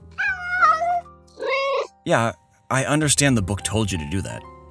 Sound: meow; distressed meow

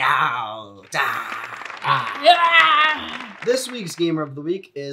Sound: all yelling

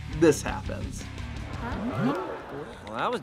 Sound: crowd gasping

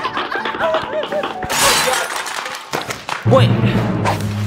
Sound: glass breaking; suspense music

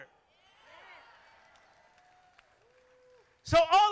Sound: crowd applauding

